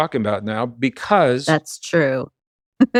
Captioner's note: laughs